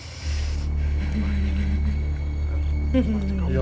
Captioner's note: laughing